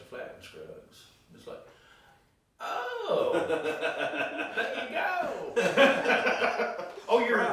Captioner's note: laughing